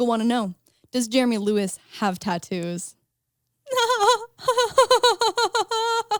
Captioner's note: laughs